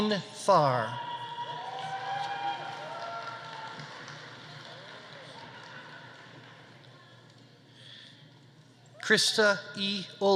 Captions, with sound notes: Hein Thar. (audience applauding) (audience cheering) Christa E. Ohlgren.